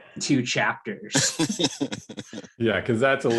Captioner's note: laughs